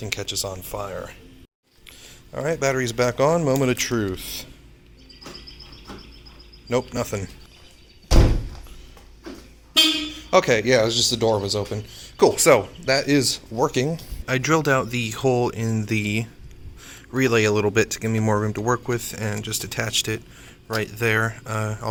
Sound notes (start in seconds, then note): 8.0 slams door; 9.8 beep